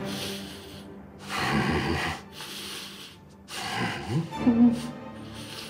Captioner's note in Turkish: Hırlama sesi